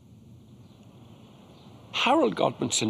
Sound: birds chirping

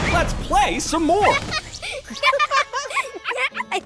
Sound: laughing

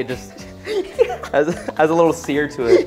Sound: chuckling

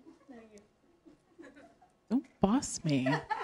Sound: laughter

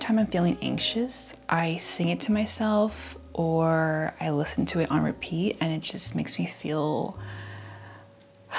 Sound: sigh

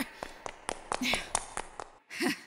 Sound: footsteps

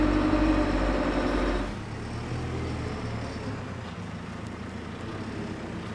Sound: engine rumbling continues

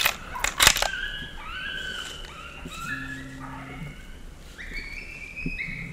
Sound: eastern Cottontail animal call; gun cocks

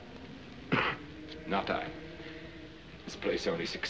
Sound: coughs

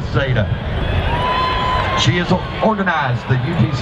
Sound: cheering

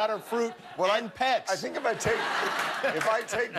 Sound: laughter

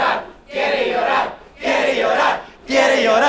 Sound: crowd chants

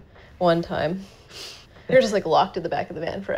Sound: laughing

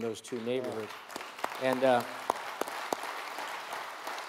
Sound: audience applauds

